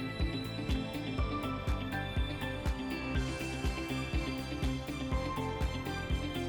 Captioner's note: none